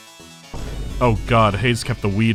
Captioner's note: boom